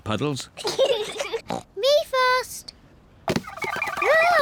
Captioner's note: snorts